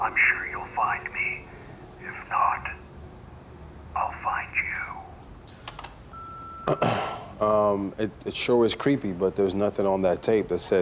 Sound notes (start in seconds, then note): 5.2 clicks and beeps; 6.6 clears throat